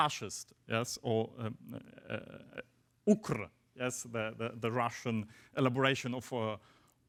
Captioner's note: speaks foreign language